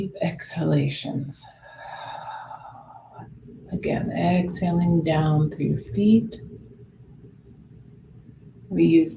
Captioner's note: exhales